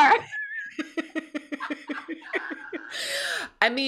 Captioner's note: both laughs